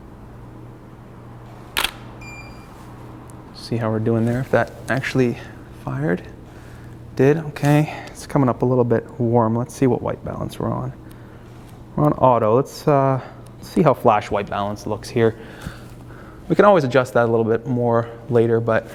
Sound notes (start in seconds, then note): 1.7 shutter clicks